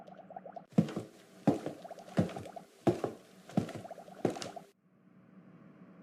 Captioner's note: footsteps